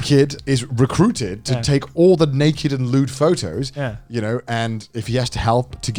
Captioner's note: none